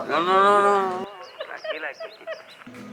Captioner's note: laughs